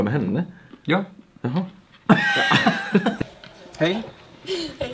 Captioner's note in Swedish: skratt